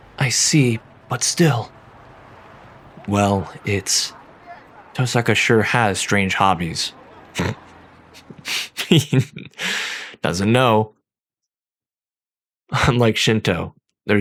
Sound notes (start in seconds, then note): 8.9 laughter